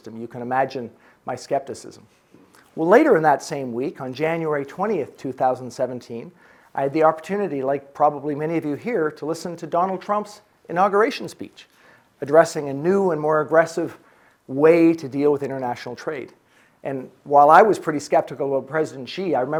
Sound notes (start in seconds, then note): none